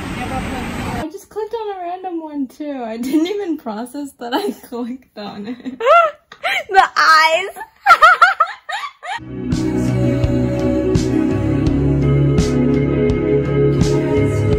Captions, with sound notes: I just clicked on a random one too I didn't even process that I clicked on it *laughs* *laugh* the eyes